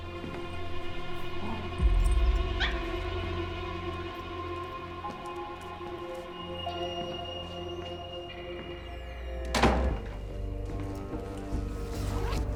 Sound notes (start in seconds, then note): 2.6 yips; 9.5 door closes